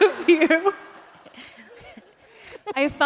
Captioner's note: laughter